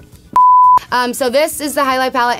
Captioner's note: beep